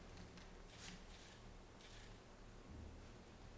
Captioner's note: camera clicks